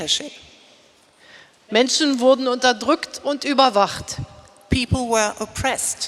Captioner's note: speaking in German